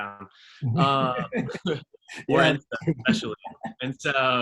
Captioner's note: both laugh